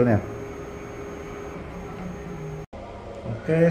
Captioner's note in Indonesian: suara mesin printer